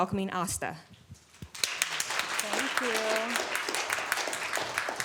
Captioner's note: applause